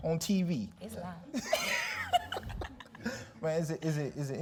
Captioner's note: laughing